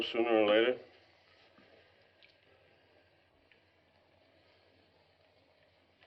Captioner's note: silence